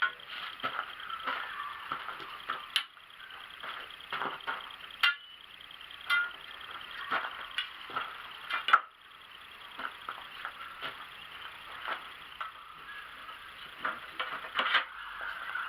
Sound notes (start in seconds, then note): 3.4 clunk clank